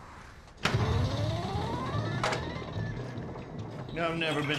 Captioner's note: pinball machine